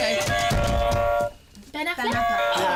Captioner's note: buzzer